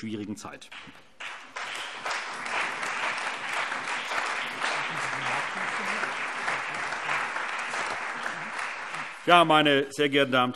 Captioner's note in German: Allgemeiner Beifall